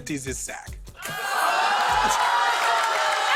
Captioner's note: laughter